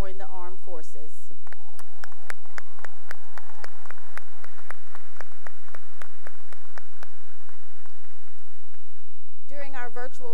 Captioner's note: cheering and applause